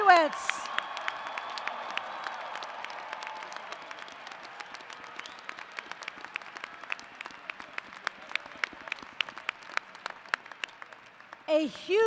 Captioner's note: applause & cheers